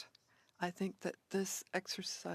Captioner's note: speaking French